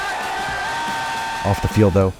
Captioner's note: loud cheering